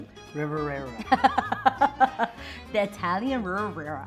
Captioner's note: laughing